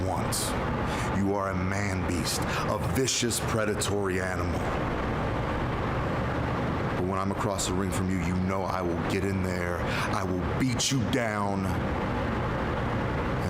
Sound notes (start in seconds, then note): none